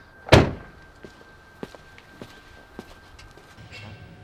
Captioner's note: SUV door slams